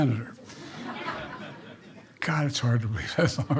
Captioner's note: laughter